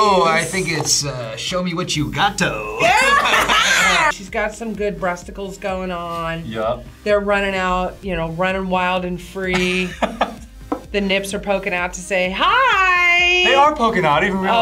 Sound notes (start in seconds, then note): 2.8 both laugh; 9.6 laughs